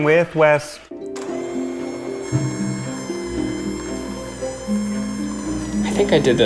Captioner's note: mixer runs